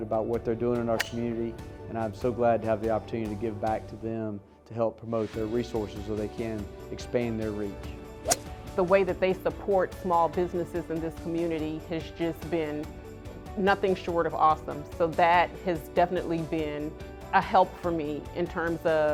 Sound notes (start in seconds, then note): 8.2 golf club hitting ball